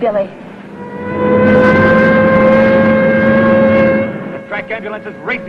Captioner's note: siren wailing